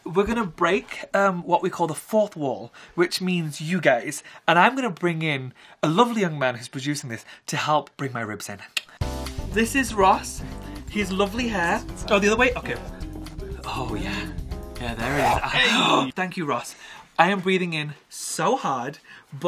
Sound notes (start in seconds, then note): 15.3 gasps